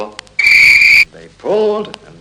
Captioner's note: train whistle